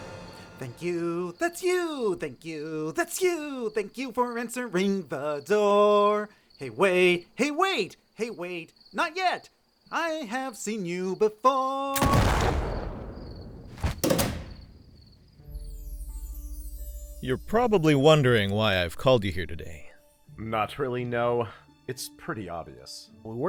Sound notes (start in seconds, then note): 11.9 shotgun blast; 12.0 thunder clap